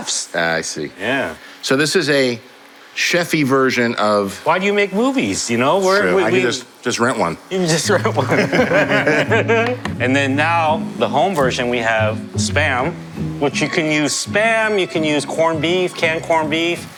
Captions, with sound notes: -I see. -Yeah. So, this is a chef-y version of-- Why do you make movies? You know? We're-- That's true. I can just rent one. You can just rent one. (Laughing) And then now, the home version, we have the Spam. Which you can use Spam, you can use corned beef, canned corned beef.